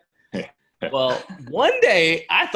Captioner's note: laughs